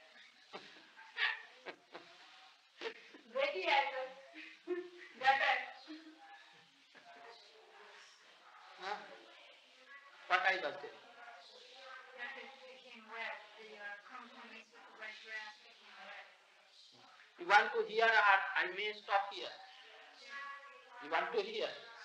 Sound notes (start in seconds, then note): 0.1 chuckles; 3.1 Hindi